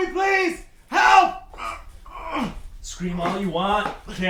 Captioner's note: grunts